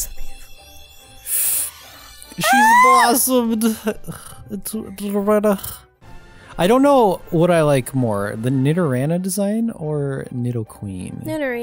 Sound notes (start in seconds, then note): 1.2 inhale